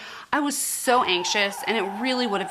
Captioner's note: woman screaming